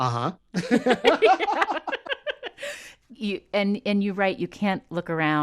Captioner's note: laughter